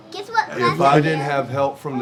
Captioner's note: toddlers babbling